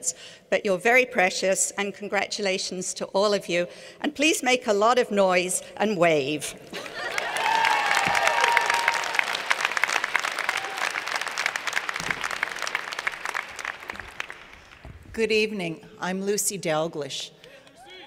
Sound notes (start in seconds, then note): 6.7 laughter; 6.8 cheers and Applause